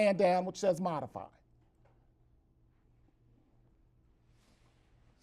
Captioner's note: brief silence